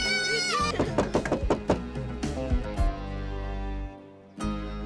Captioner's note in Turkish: kapı çalıyor